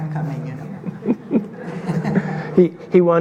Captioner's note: audience laughing